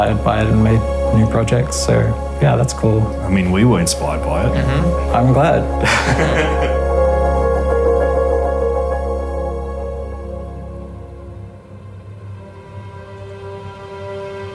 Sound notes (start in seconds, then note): 5.8 laughing; 11.7 dramatic music